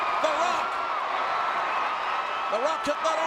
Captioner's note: crowd cheers